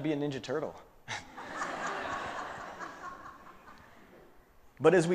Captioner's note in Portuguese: Risos